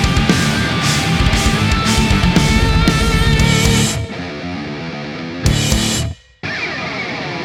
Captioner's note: crowd cheering